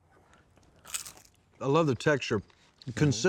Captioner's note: crunching sound